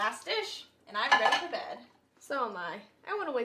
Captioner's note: dish clinking